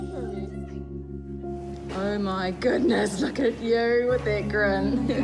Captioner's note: chuckles